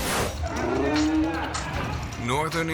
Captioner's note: logo squishes; lion roars